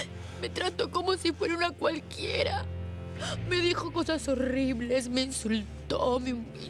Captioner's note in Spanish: Sollozos